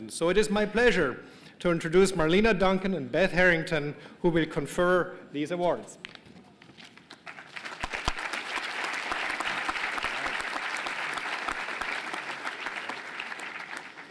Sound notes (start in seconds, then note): 6.9 applause